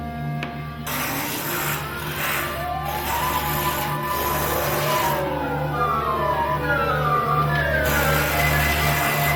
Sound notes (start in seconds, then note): 0.8 tool buzzing